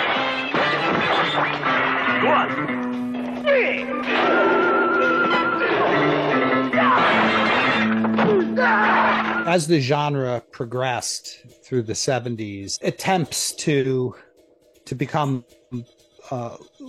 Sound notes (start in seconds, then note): 2.0 fighters exclaiming